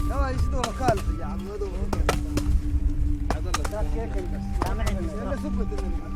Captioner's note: men speak in foreign language